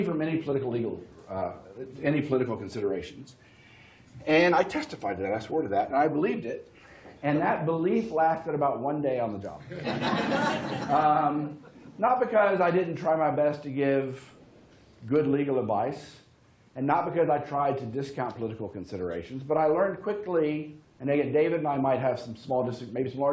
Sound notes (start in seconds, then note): 9.6 laughter